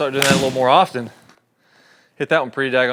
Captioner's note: golf ball thwacks